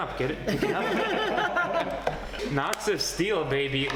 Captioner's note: both laughing